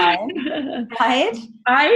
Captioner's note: laughing